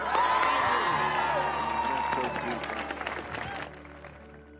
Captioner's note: audience cheers